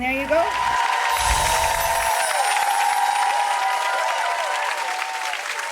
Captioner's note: audience cheering and clapping